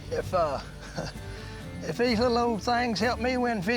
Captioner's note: chuckles